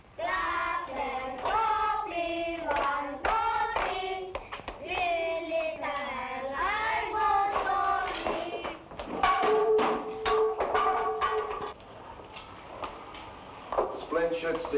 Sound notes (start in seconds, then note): 9.0 wood block rattles